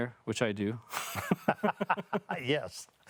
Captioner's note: both laughing